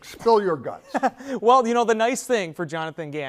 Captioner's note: laughing